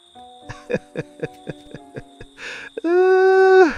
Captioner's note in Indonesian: tertawa